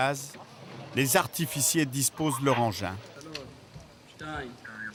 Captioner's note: French spoken audio